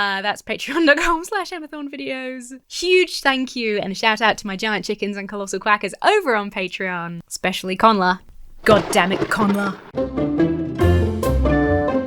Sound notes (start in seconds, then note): 8.2 thunder cracks; 9.9 lighthearted music